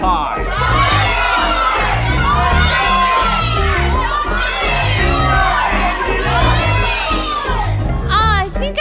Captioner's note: audience members shouting more names